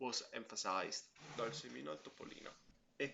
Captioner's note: speaks in Italian